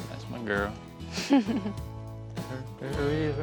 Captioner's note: giggles